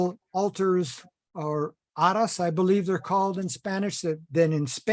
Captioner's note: spanish